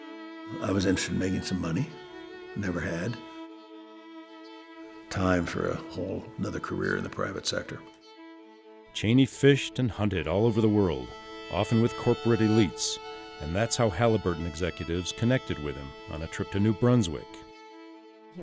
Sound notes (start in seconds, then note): 8.8 voiceover